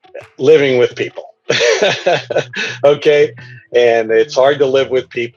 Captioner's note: يضحك